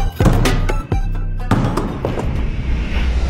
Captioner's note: ball bouncing; tense music